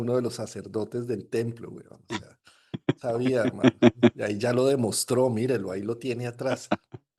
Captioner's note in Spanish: risas